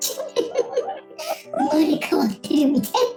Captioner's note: laugh